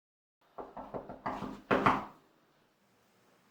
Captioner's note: knocking